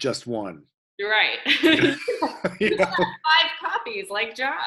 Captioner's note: laughter